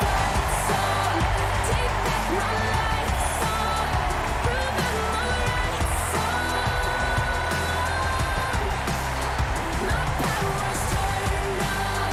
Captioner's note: cheers and applause